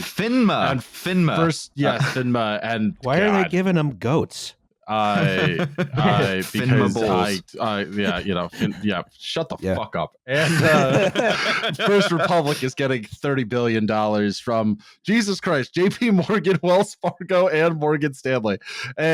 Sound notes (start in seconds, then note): 5.0 chuckles; 10.3 laughter